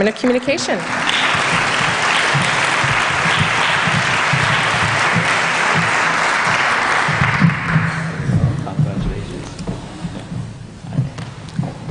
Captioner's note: applause